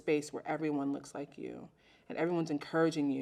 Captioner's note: none